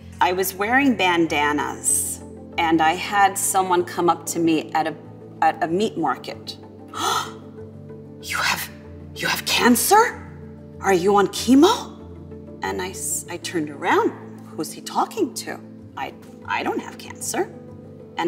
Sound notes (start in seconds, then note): 6.9 gasps